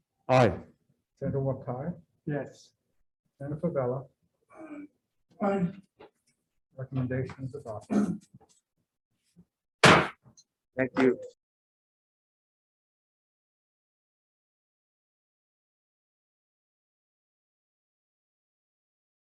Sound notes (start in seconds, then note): 9.8 gavel slamming